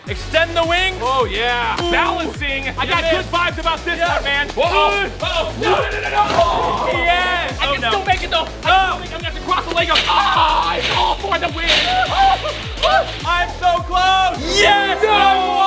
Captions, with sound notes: - Extend the wings. - Oh yeah, balancing. - I got it. - I've got good vibe about this one man. (screaming) No. No. Oh no. - Yes! - I can still make it though. I'm just going to have to cross the Legos, (screams) it's all for the win. - I'm so close! Yes, I won.